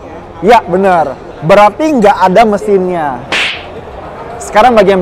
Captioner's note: slap sound